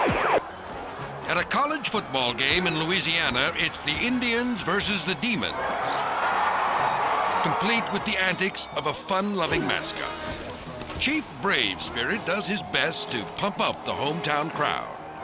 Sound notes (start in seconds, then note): 0.2 logo whooshes; 6.4 crowd cheering